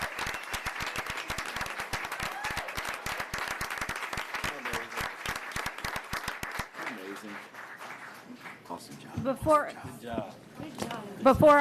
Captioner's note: applause